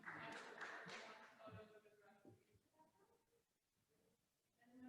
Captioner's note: attendees applauding